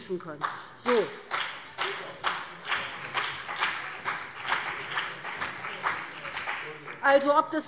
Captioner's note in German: Beifall BÜNDNIS 90/DIE GRÜNEN und CDU